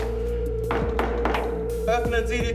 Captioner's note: knocking on door